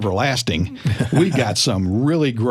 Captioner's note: laughter